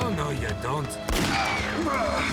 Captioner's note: gun firing; screaming